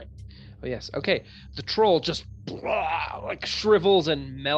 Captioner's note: bleurgh noise